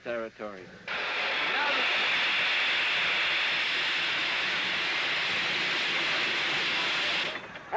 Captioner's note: steam hissing